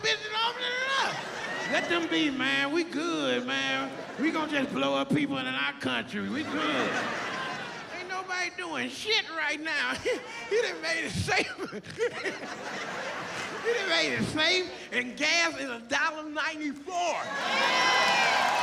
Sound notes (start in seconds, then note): 13.8 laughs